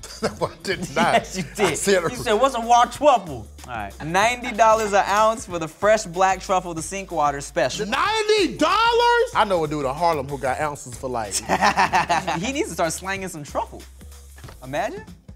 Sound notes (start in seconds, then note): 11.3 laughing